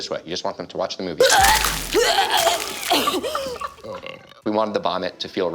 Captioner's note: retching